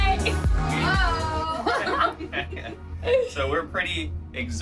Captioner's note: laugh